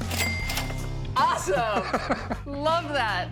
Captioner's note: laughs